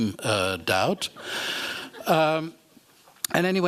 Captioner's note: laughter